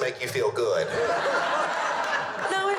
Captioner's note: laughter